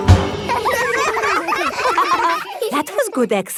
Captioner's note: all giggling